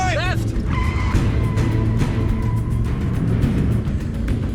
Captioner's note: tires screeching